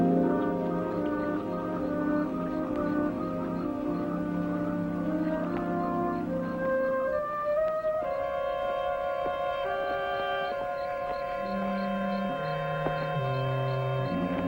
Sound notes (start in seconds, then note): 8.4 insects chirping; 8.4 suspenseful music